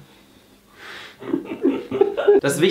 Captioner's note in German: Lachen